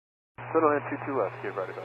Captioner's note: over dispatch radio